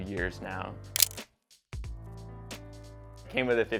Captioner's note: camera shutter clicks